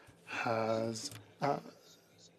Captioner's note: speaking in French